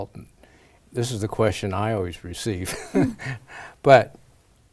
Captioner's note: laughs